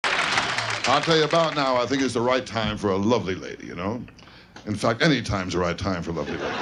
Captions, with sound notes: (applause) - I tell you, about now, I think, is the right time for a lovely lady. You know? In fact, any time is the right time for a lovely lady.